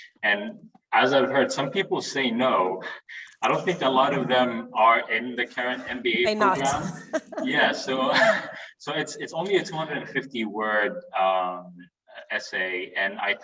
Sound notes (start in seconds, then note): 6.5 both chuckling